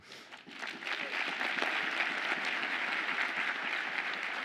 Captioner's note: audience applauds